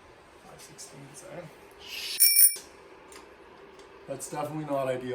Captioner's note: bell ring